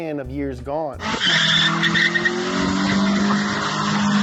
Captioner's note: tires screeching